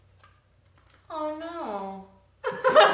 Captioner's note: laughs